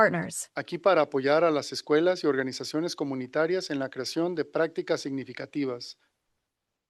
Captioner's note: non-english speech